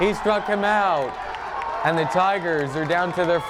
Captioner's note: fans yelling